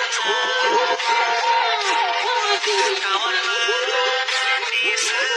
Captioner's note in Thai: ปรบมือ